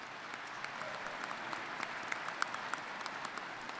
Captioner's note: applause